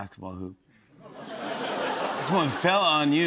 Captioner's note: laughter